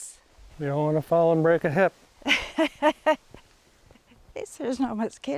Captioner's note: laughs